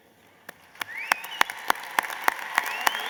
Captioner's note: applause